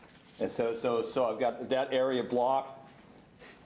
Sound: stammers

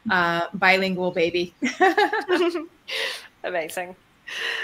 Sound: laughs

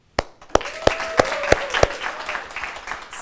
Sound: applause

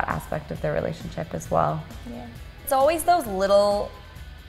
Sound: quietly

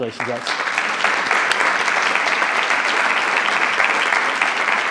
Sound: attendees applauding

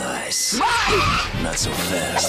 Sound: tire screech

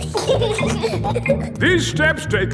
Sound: giggling

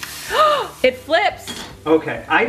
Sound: gasps

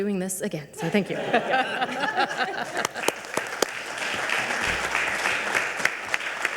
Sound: audience laughing and applauding

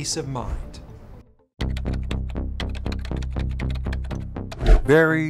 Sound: tense music; keyboard clacking

